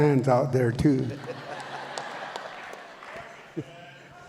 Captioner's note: audience laughs